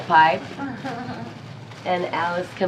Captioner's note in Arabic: يضحك